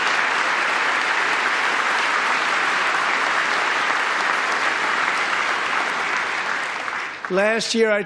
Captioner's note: applause